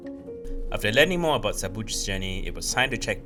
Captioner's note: voiceover